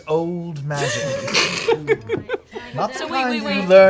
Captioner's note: laughter